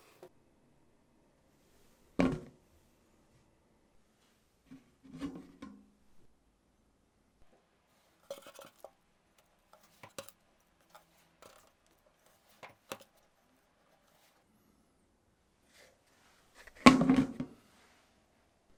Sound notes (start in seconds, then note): 12.1 folding